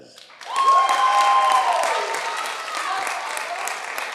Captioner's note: audience applauding